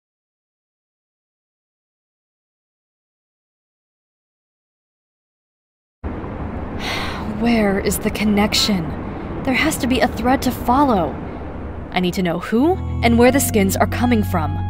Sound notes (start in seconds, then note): 6.8 sigh